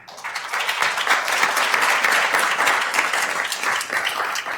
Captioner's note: attendees applauding